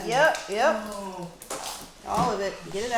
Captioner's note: vomit splashing